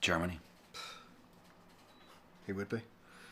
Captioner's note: sighs heavily